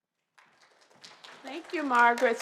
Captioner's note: applause